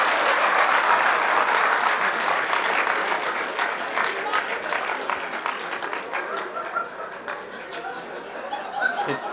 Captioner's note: cheers/Applause